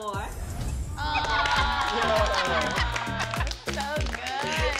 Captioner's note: applause